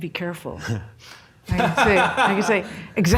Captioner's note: laughs